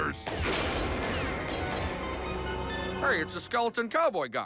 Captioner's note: gunshots